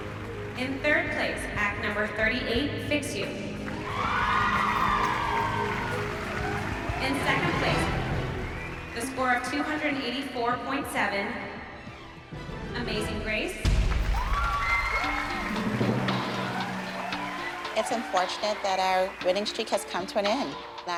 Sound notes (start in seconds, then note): 3.5 cheers and applause; 13.7 cheers and applause